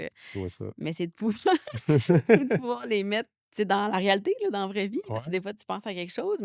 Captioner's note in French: rires